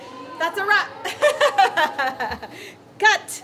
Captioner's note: laughs